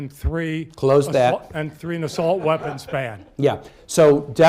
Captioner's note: laughter